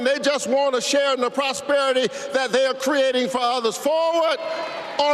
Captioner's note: applause